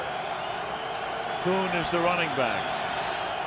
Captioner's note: cheering